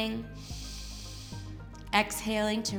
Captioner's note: inhales